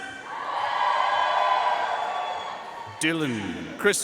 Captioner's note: audience cheering and applauding